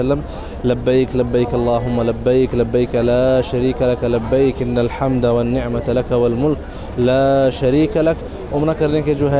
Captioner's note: Arabic